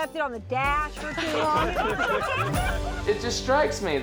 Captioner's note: all laughing